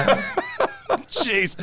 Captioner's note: laughing